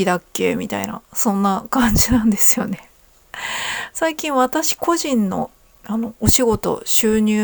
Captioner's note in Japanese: 息をのむ音